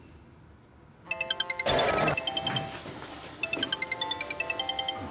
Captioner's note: phone continues to ring